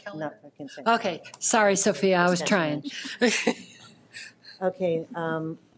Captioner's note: laughs